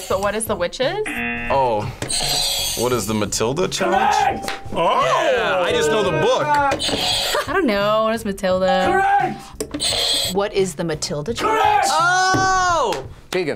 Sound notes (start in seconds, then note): 1.0 buzzer rings; 1.0 buzzer; 6.8 buzzer rings; 9.8 buzzer rings